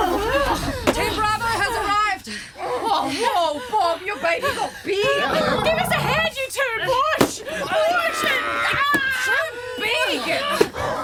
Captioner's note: The Monster GROWLS and STRUGGLES with Dusty